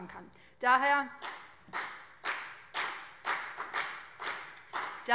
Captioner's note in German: Beifall BÜNDNIS 90/DIE GRÜNEN und CDU